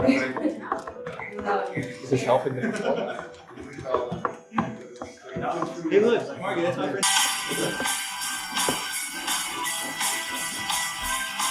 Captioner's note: chatter